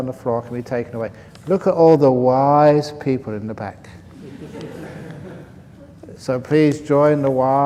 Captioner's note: laughs